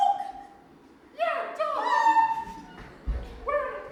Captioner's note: Dorothy squeals